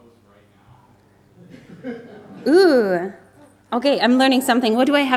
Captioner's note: audience laughs